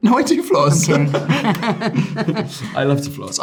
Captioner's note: all laughing